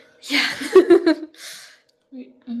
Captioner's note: laughter